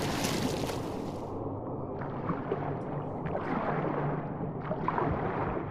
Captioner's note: shove -- splash!; underwater sounds; distant, echoing